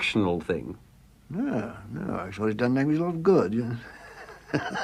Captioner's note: laugh